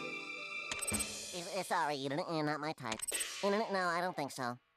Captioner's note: Porky stuttering